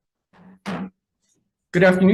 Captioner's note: gavel bangs